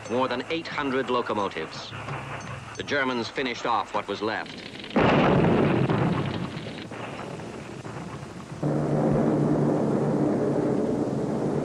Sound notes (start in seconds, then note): 4.9 explosion booming; 8.4 planes roaring